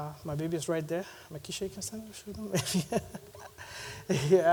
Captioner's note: chuckles